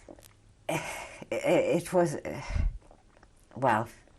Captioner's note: sighs